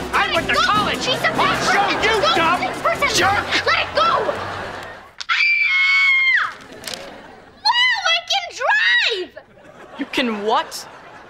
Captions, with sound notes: I went to college! I'll show you dumb, jerk! Let it go! [screaming] Wow, I can drive! You can what?